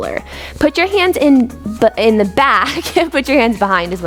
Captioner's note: chuckles